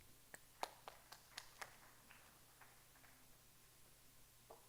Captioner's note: audience applauding